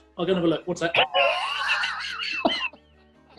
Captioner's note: laughter